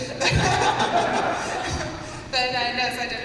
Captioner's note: laughter